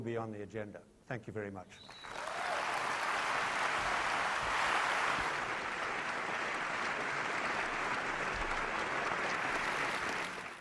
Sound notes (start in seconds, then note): 1.6 applause